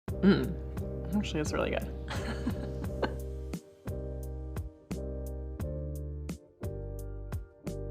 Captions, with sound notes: - Actually, that's really good. (laughing) (soft music)